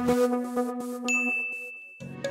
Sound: message notification

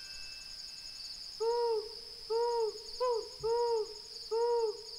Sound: owl hooting

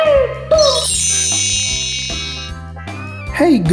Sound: high-pitched chimes

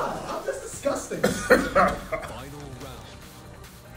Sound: laugh

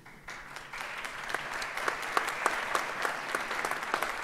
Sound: audience applauds

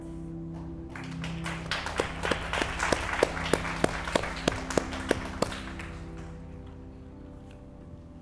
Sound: applause

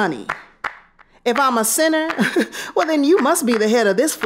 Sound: chuckling

